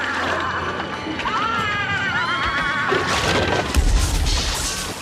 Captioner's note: berteriak